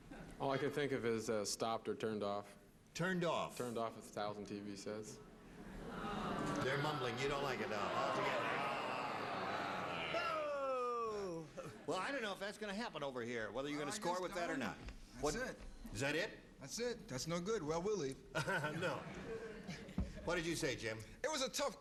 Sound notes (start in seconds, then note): 8.2 crowd booing